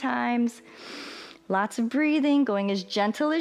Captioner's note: inhales